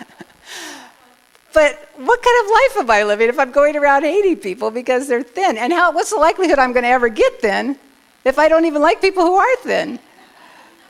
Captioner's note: laughter